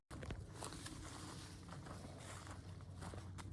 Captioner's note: footsteps